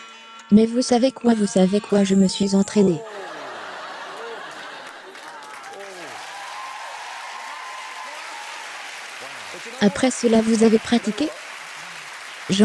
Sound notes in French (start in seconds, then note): 2.8 la voix craque; 5.3 applaudissements